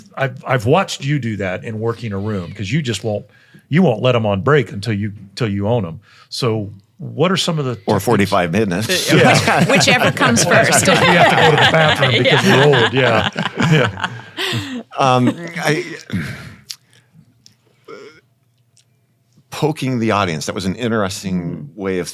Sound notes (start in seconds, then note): 9.0 panel laughing